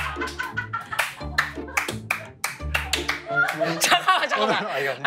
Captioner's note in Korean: 짝짝짝짝짝짝